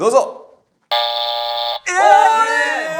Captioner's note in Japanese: 不正解音